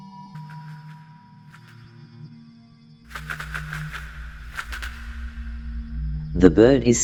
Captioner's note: wings flapping